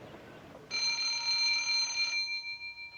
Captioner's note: ring